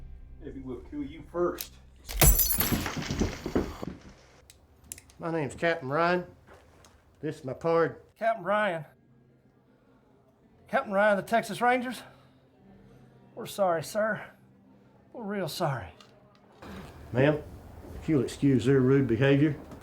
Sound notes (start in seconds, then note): 2.1 glass shattering; 2.1 bottle thudding; 2.2 Creed thudding to floor